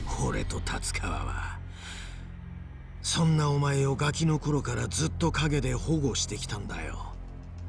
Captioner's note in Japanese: ため息